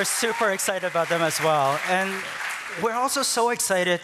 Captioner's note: applause